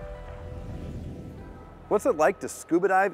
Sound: air whooshing

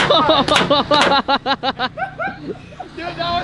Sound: paintball gun shooting; laughing

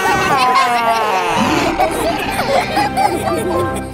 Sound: laughter

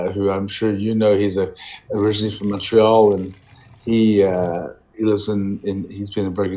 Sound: wine pouring

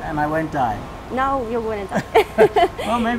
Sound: laughing

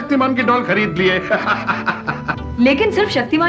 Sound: laughs

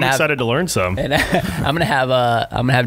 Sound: laughing

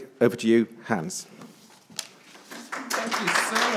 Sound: attendees applauding

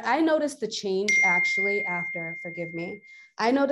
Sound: device pinging

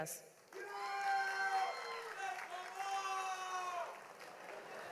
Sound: audience applauds; audience cheers

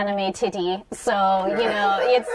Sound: laughter

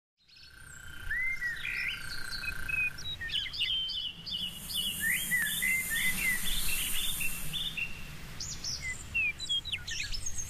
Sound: bird calls

